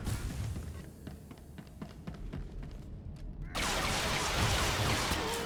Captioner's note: gun firing